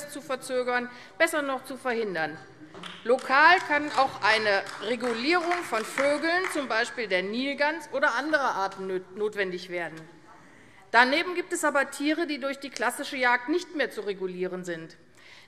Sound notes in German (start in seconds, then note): 2.8 Beifall AfD